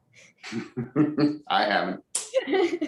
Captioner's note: laughs